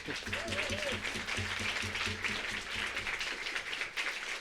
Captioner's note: applause